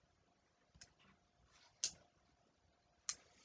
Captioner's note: faint ticking sounds